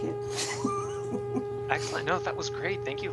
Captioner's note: laughing